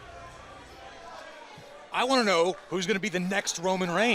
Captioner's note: crowd chatter